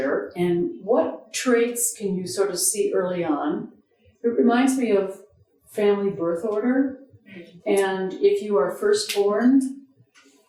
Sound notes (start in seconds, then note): none